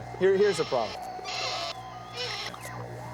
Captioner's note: squeaking